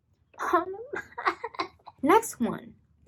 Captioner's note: crying 'cause it hurts